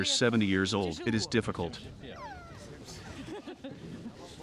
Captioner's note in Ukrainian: сміються